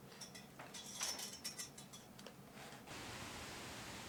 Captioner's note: rustling outside